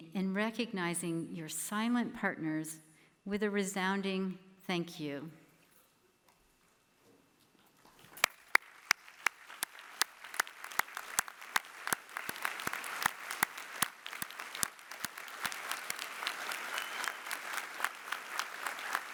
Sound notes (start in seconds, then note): 5.3 applause